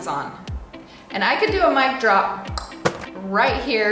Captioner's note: snaps tongue